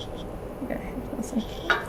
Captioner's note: speaking faintly